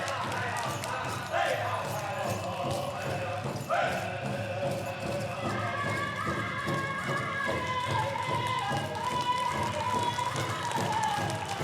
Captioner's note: applause